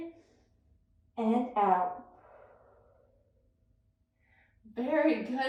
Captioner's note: inhales deeply; exhales deeply